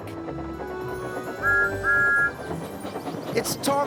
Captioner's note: whistles